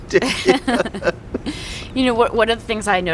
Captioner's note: laughing